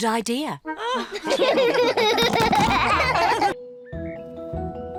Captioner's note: all laugh